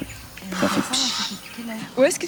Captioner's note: Pfff